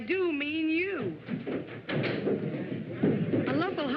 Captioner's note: stomping on stairs